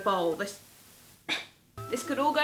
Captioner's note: coughing lightly